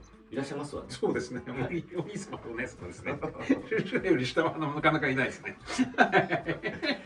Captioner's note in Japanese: 笑い